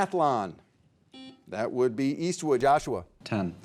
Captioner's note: buzzer beeping